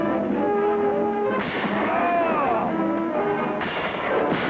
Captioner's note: man grunts; guns banging